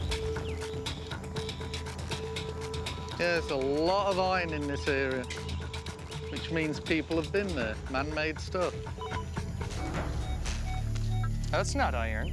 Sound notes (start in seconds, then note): 8.9 metal detector beeping